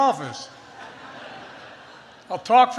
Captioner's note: laughter